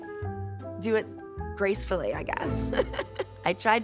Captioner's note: laughs